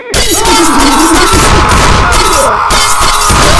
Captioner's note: prisoners scream as Lucow kills them